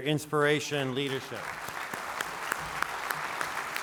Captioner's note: applause